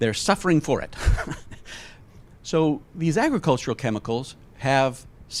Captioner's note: laughs